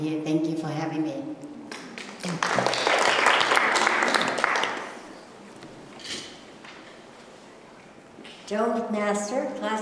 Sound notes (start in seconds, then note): 1.8 applause